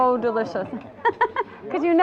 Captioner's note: laughing